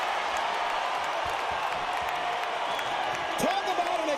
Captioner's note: crowd cheers